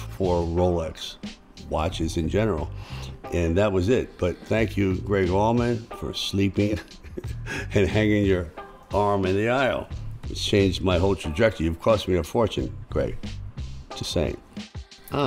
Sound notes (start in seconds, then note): 6.7 chuckles